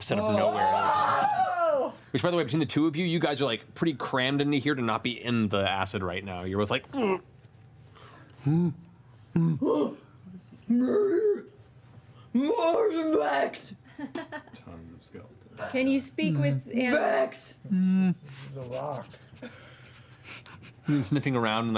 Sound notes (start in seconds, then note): 7.7 confused bear noises; 8.4 grunts; 10.7 bear noises